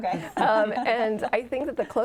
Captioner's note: chuckles